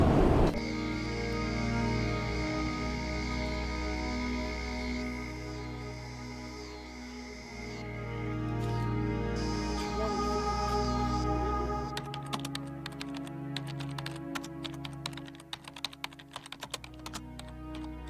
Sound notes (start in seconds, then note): 0.8 brooding music; 0.8 crickets chirp; 10.0 distant chatter; 11.9 keyboard clacks